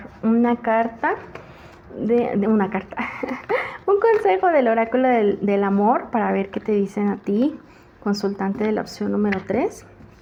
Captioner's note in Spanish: risas